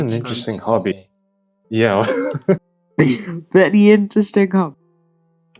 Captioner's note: laughs